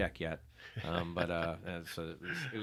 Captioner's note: laughing